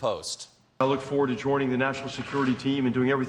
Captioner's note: none